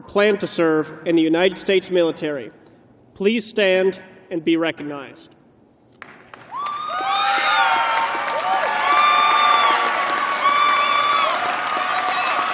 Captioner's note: cheers and applause